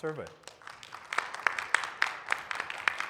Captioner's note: audience applauding